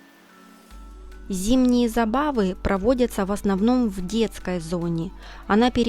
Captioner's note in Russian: закадровый голос